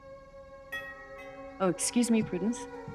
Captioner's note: gong chiming; suspenseful music